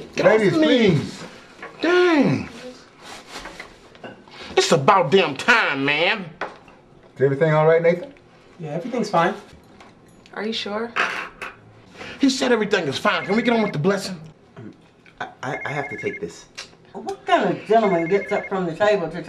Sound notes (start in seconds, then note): 15.4 phone ringing